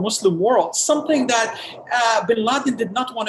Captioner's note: background thunder